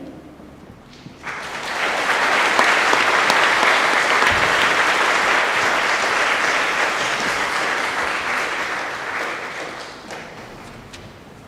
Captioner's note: applause